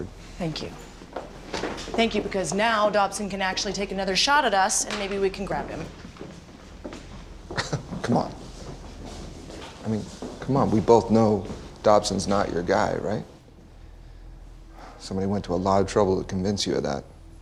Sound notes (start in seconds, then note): 7.5 chuckles